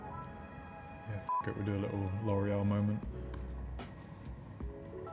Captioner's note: beep